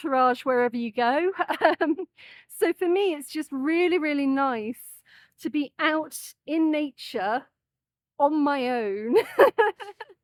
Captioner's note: laughing